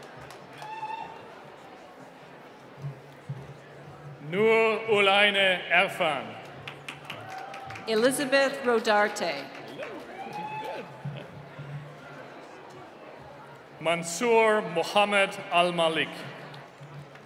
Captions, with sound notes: - Nua Ulina Efan. (applause) - Elizabeth Rodarte. (cheering) - Monseiur Mohamed Al Malik.